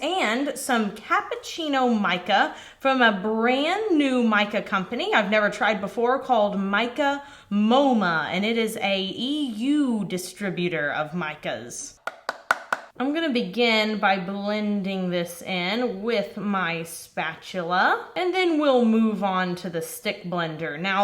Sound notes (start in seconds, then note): 12.0 tapping